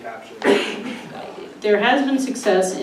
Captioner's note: loud coughing